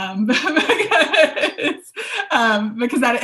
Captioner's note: laughs